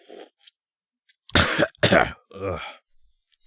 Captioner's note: cough